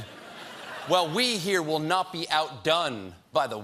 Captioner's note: laughter